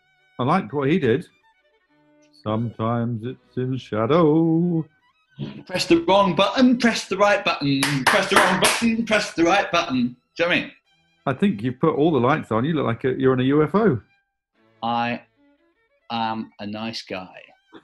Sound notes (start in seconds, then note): 7.6 claps